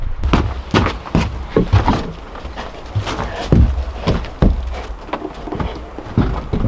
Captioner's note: boots scraping; dog panting